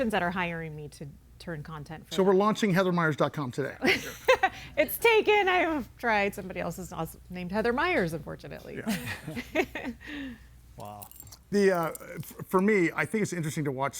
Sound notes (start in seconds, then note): 4.0 laughs; 8.8 laughs